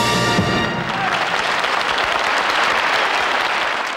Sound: audience applauding

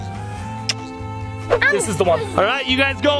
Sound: lips smacking

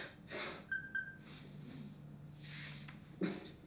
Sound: phone chimes

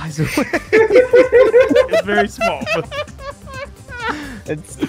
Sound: laughter

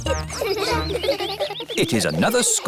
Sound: children giggling

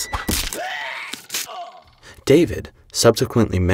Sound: arrows stabbing; Uriah screaming

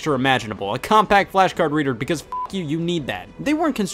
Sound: beep

